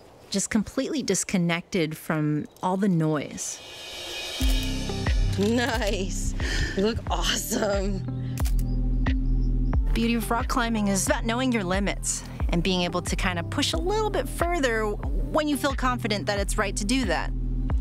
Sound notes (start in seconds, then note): 4.9 chuckles